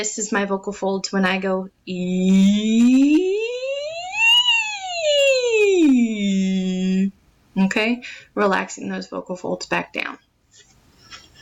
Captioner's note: rising pitch